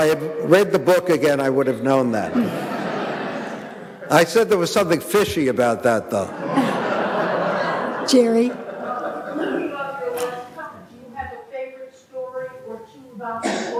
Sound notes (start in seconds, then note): 2.2 audience laughing